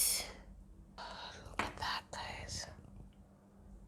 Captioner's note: whispers